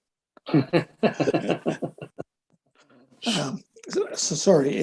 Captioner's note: men chuckling